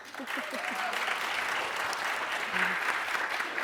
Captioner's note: applauding